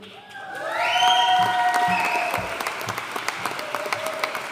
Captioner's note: audience cheering and applauding